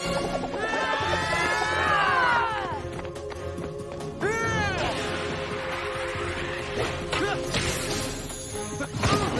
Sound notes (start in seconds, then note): 0.6 screaming